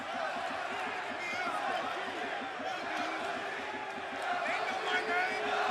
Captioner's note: crowd cheering